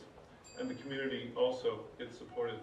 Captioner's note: bell dings